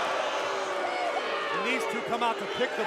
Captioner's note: crowd cheering